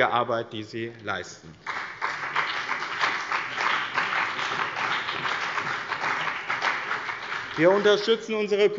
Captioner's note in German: Beifall bei dem BÜNDNIS 90/ DIE GRÜNEN und der CDU